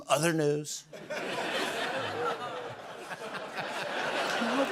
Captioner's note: laughter